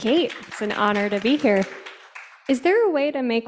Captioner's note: audience applauding